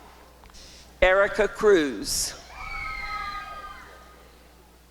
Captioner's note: applause and cheering